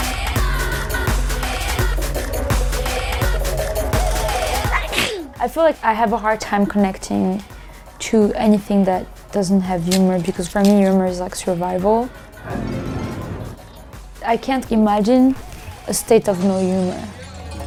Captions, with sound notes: [SNEEZES] I feel like I have a hard time connecting to anything that doesn’t have humor because for me, humor is like survival. I can't imagine a state of no humor.